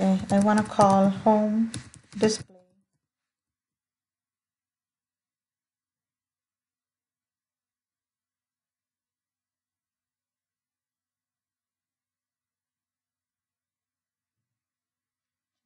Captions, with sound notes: Okay! I want to call home/display (No audio as the application takes a bit of time to start)